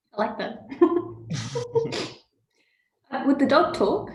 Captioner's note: giggles